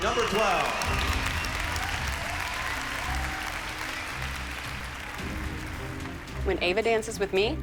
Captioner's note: applause